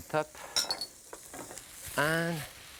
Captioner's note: utensils clinking